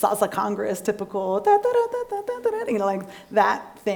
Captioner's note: imitates music